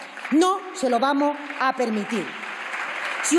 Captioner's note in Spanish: Aplausos